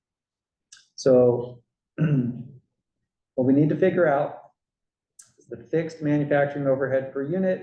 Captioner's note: cough